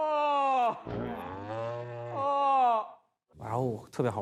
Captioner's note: yawning trio